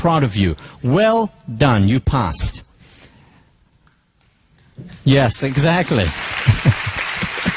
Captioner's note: applause